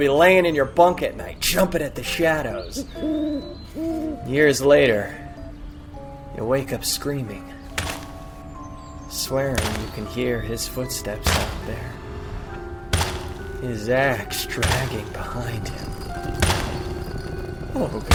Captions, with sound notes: You'll be laying in your bunk at night. Jumping at shadows. (owl prattling) Years later, you'll wake up screaming. (axe thudding) Swearing you can hear his footsteps out there. His axe dragging behind him.